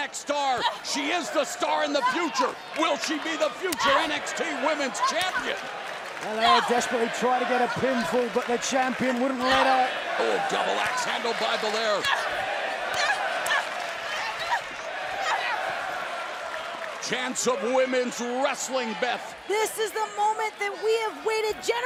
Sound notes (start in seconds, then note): 13.9 crowd chatter